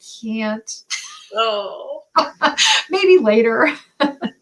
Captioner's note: laughter